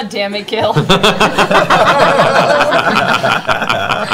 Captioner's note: laughter